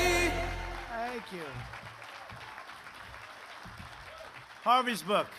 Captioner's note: applause